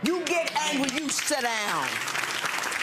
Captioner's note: audience clapping